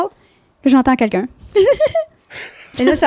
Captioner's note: in french